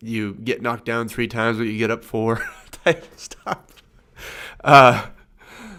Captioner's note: laughs